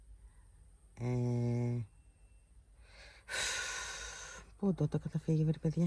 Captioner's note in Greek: αναστενάζει